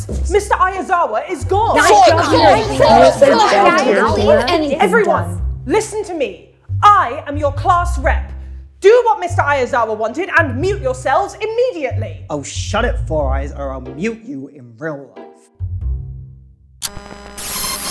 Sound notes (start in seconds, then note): 1.8 indistinct chatter